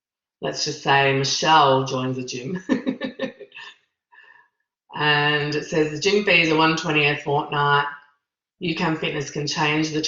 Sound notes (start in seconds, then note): 2.6 laughs